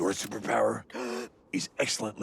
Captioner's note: gasps